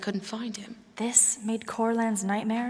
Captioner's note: whispers